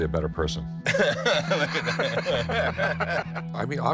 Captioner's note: both laugh